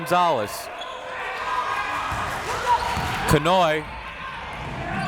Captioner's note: crowd members shouting